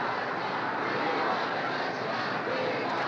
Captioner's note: crowd chanting